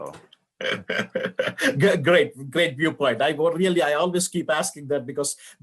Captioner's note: laugh